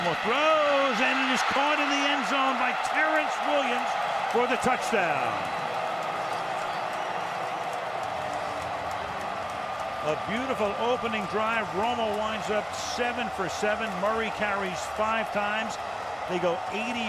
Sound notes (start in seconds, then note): 5.7 cheering